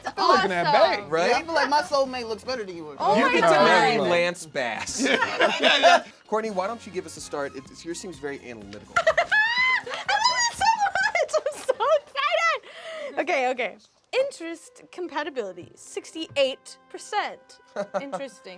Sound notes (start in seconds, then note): 9.0 laughing